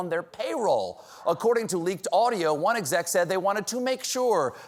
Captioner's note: none